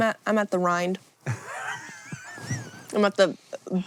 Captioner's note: HANK wheeze-laughs